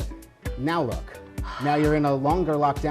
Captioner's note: sighs